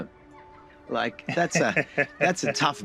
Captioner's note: chuckles